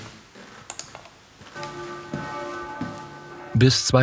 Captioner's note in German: Kirchenglocke